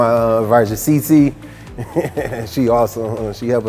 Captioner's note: laughs